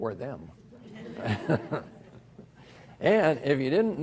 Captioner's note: everyone laughs